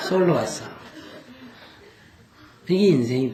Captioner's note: audience Laughter